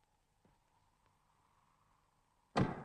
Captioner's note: door is bolted